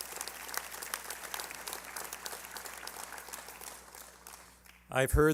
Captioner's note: applause